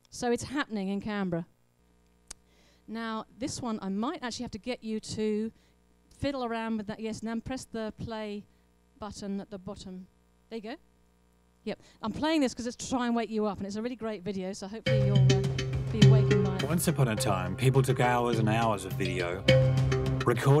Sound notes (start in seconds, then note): 16.8 voiceover